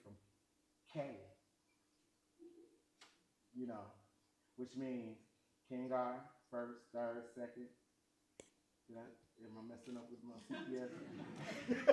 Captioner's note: laughs